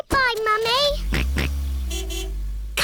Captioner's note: car horn honks; george oinks